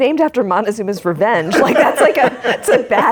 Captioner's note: laughing